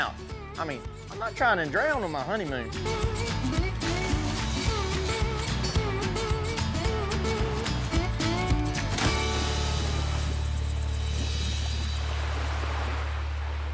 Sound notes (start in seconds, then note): 2.8 falls, splashes multiple times